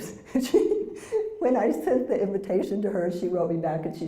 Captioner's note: laugh